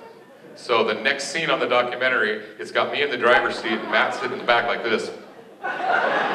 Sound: laughter

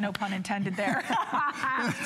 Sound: laughter

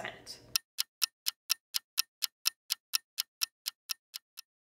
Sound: clock ticking

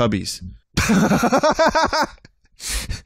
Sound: laughs

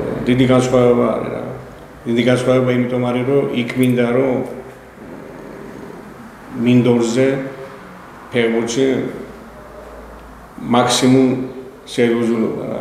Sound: laughs

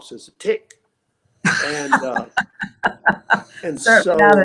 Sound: laughing

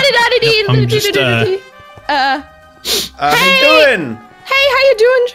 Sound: sniffs

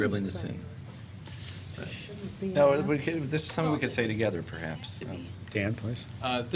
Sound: indistinct chatter

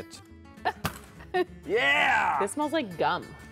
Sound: smack

